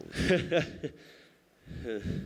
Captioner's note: laughing Nervously